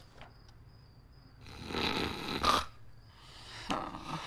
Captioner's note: george snoring; sigh